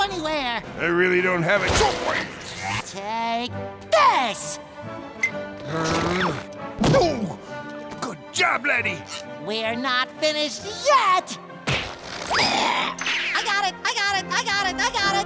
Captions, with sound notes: I really don't have a choice. Take this! Ooh! Good job, laddie! We're not finished yet! [gagging] I got it! I got it! I got it! I got it!